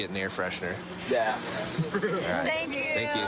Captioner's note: laughs